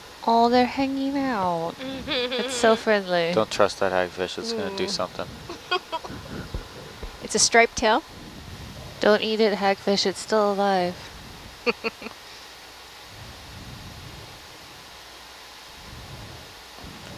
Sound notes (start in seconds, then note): 11.6 giggling